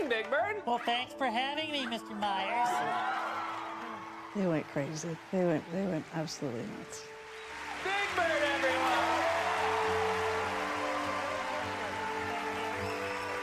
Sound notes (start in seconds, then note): 2.5 audience cheering; 5.9 stammering; 7.6 audience cheering